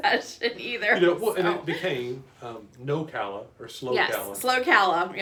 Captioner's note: stammers